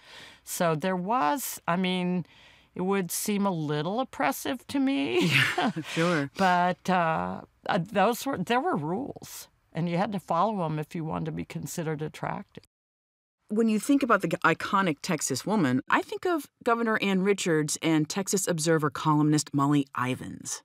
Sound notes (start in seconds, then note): 5.2 chuckles